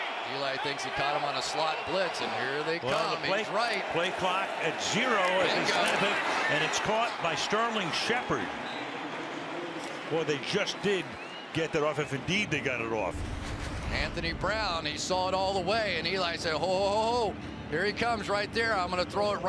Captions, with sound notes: Right. Eli thinks he caught them on a slot blitz. And here they come. Well, the plays right. Play clock at zero-- Bingo. --as they snap it. And it's caught by Sterling Shepard. [whistle] Boy, they just did get that off, if, indeed, they got it off. Anthony Brown, he saw it all the way. And Eli said, ho, ho, ho, ho, here he comes right there,